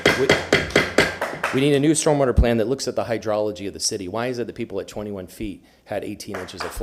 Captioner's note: sounding gavel; applause